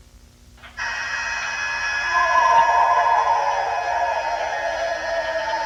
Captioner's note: eerie animal howling